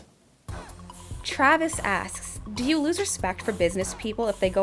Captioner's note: voiceover